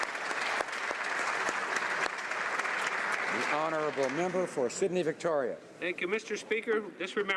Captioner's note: some Applause